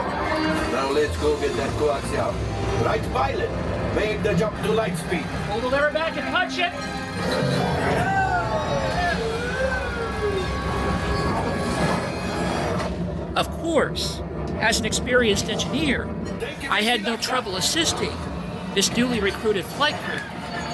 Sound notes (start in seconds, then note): 7.8 guests cheering